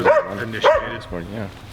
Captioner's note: dog barking continuously